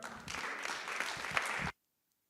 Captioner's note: applause